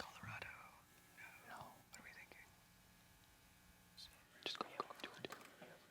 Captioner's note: whispering; team whispering